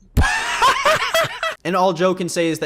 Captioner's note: laughs